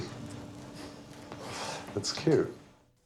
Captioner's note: laughs